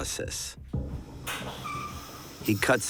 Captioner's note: squeaking